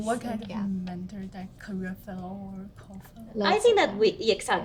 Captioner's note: mutters